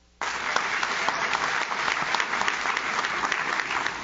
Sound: audience claps

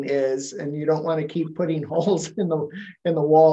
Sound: chuckle

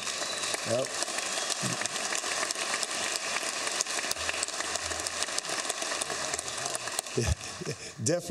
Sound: applause

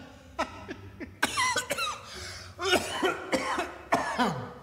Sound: laughs; coughs

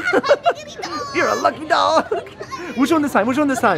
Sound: laughing

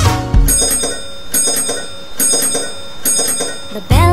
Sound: bell ringing

